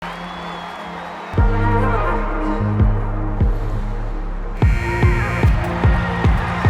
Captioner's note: audience applauding; melodious music